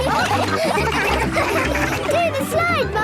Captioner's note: all laughing